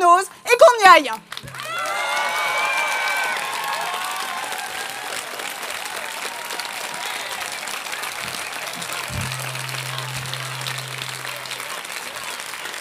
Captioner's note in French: Applaudissements